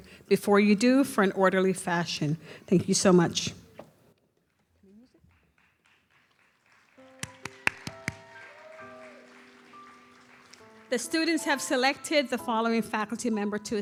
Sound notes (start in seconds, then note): 7.3 audience applauds; 8.6 gentle music